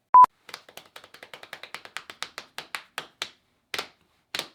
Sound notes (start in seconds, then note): 0.1 screen beeps; 0.4 hand patter